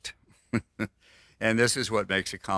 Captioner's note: laughs